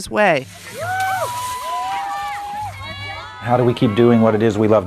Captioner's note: skis slide; people cheer